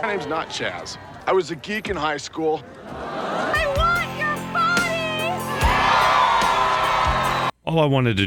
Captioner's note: crowd cheers